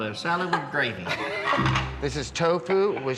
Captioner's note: laughs